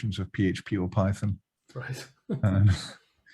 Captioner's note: chuckles